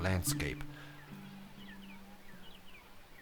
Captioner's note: birds chirping